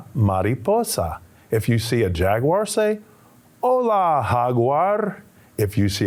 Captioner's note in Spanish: hablando en español; hablando en español